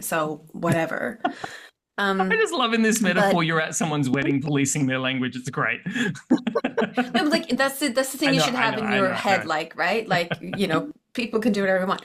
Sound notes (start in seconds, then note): 1.5 laughs; 5.9 laughter